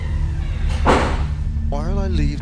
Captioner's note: door banging